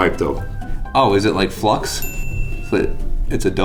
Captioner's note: ding